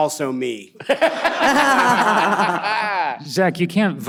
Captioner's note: all laughing